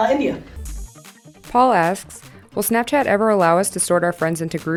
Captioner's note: voiceover